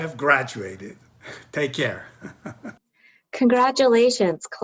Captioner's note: chuckling